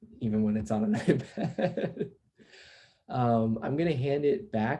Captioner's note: laughs